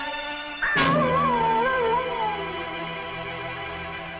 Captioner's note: animal howling